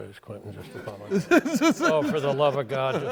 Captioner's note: laughs